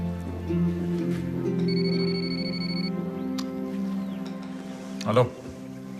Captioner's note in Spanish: Suena el celular